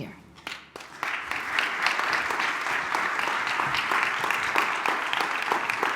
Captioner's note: applause